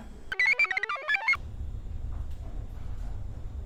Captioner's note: computer chirps